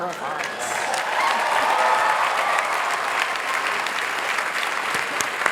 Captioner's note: applause